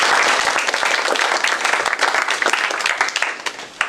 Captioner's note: applause